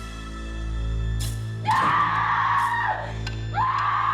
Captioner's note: screaming